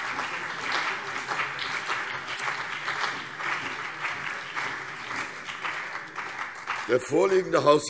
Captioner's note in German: Beifall CDU und BÜNDNIS 90/DIE GRÜNEN